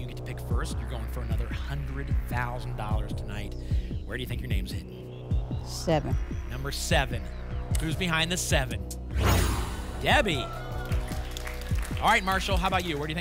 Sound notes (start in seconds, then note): 9.1 whoosh; 10.0 applause and cheering